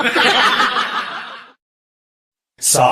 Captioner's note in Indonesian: tertawa